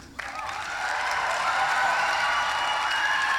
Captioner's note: applause; cheering